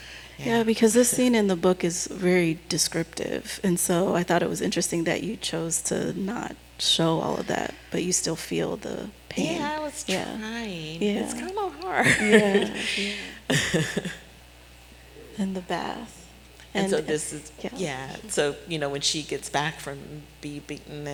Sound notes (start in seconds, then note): 11.8 chuckling